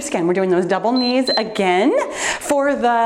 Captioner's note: timer beeps